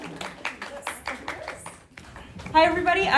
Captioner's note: group applauds